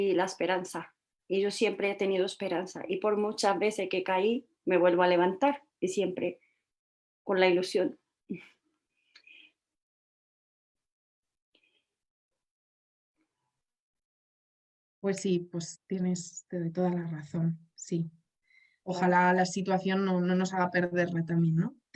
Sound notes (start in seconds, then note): 7.1 voice breaks